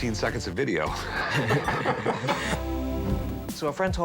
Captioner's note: laughs